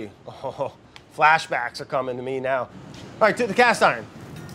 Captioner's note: laughs